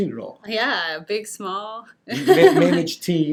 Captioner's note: laughs